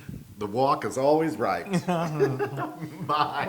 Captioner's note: laugh